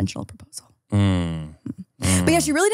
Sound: groans

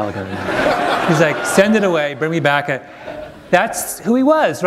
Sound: laughter

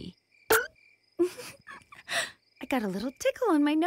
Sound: giggle

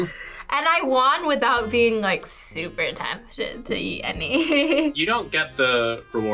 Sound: laughs

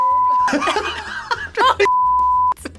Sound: both laugh

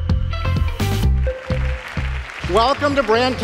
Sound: applause

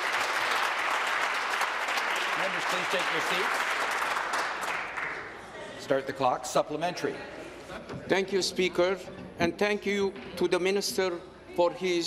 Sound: applause

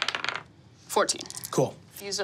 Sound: dice tapping table

